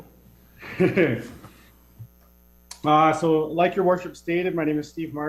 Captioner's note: laughs